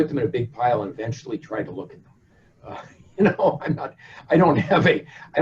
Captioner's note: chuckles